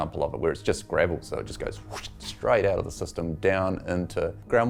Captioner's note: whoosh